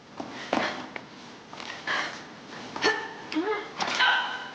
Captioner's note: Riley grunting